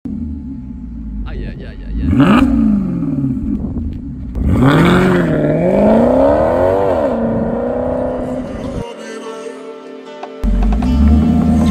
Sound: sound Exhaust

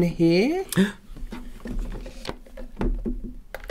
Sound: gasps of Adventure

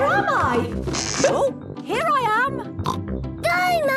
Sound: pops

